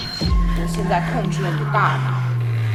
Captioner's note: Mandarin language